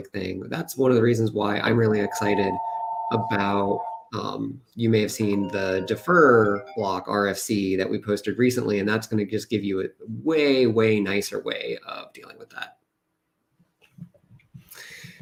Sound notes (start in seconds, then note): 2.0 ringing